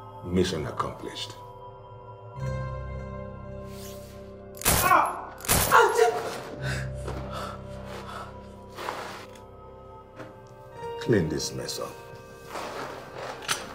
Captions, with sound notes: - Mission accomplished. (gun shots fired) (man and woman screaming) Clean this mess up.